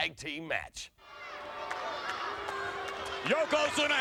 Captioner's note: spectators cheering